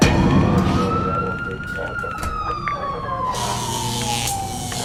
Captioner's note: siren wailing